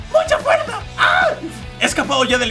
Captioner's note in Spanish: Grita